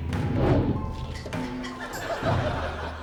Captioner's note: whoosh!